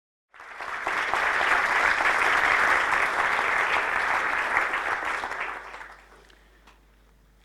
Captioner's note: applause